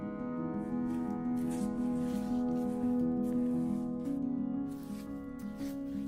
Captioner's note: somber music; paintbrush swishing